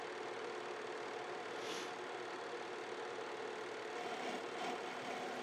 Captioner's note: projector whirring; Jimmy sniffles